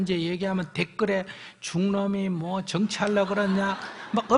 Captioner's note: audience Laughter